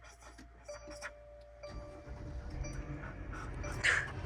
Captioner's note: beeping